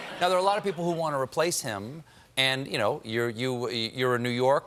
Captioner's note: laughter